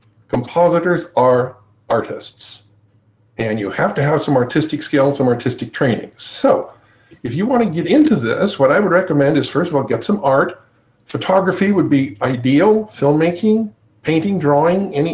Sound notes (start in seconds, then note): none